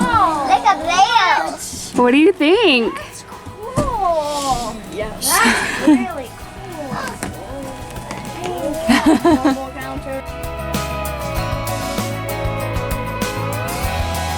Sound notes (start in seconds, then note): 8.5 chuckles; 11.7 upbeat music